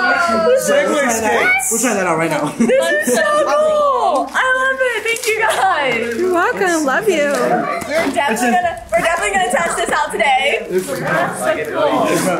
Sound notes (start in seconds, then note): 0.1 group chuckles and chatters; 2.4 laughs; 5.7 chuckles; 7.4 group chuckles and chatters; 10.2 group chuckles and chatters